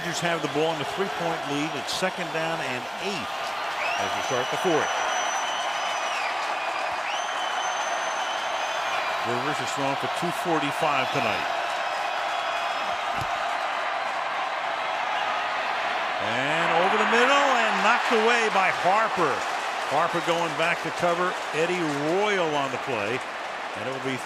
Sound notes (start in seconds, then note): 6.4 crowd cheering